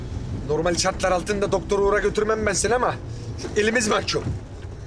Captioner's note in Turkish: none